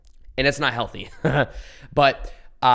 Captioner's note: chuckles